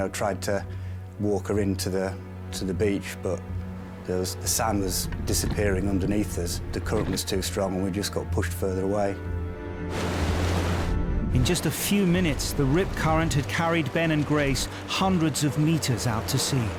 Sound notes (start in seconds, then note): 9.2 intense music; 9.9 water whooshing